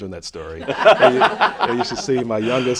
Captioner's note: laughter